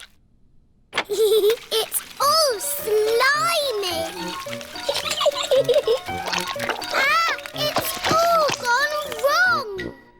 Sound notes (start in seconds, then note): 1.2 giggles